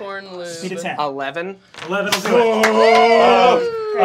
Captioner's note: cheering